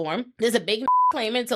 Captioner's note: beep